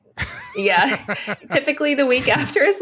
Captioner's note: laughs